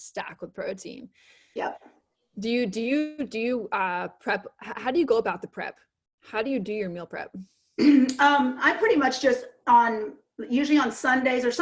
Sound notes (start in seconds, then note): 7.7 clears throat